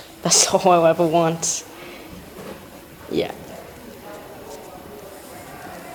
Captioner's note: laughs